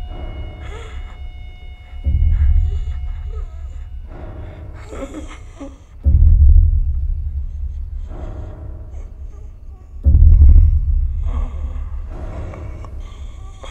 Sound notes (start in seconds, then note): 0.1 alex wheezing